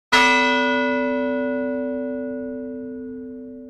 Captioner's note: bell ringing